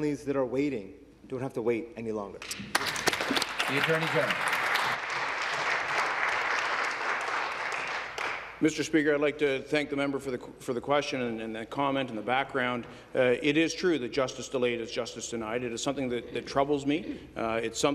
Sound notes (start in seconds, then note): 6.6 applause